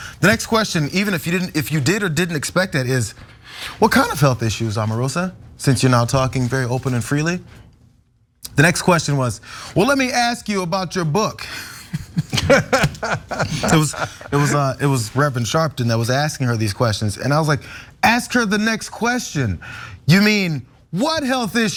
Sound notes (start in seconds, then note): 11.6 laugh